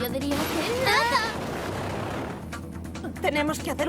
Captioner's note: sonic boom